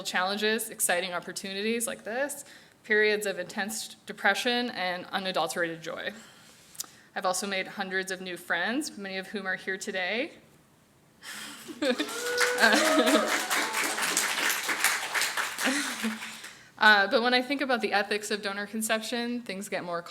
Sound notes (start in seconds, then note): 11.8 audience cheers and applauds